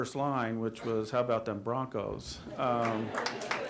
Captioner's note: applause